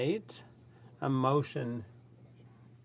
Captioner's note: speaking French